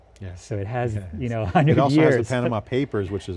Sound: laughs

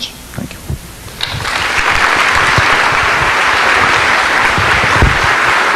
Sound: audience applauding

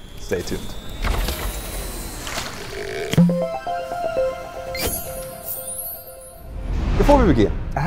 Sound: playful chime

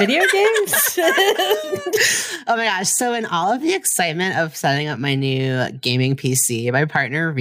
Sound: laughs

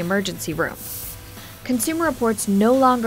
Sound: spraying water

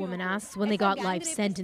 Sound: speaking Alternate Language

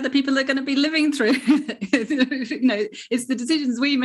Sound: chuckles softly

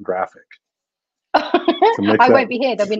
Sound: laughs loudly

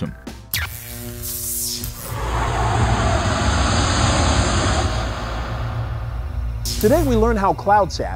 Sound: sound Effects

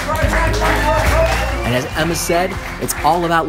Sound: applause

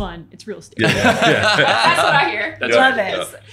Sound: laughing

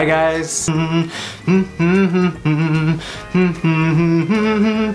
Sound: humming

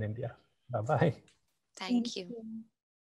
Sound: laughs

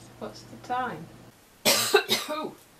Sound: coff

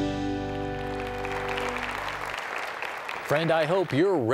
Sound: applause

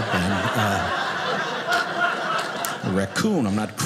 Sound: audience laughing

